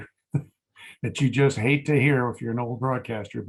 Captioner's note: laughs